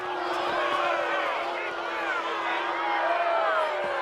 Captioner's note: crowd booing